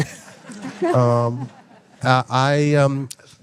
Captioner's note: all laughing